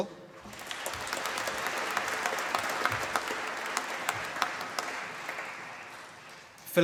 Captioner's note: applause